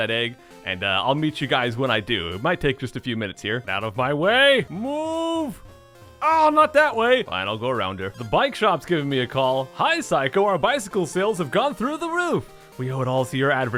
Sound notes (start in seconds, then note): 5.9 groans